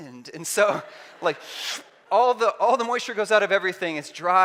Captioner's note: sucking noise